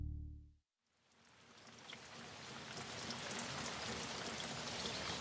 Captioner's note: rain falling